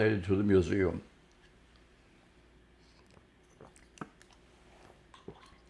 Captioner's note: drinking